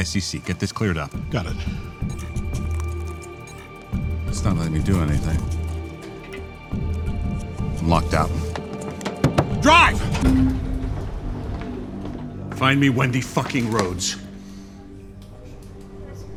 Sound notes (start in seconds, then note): 2.4 computer beeps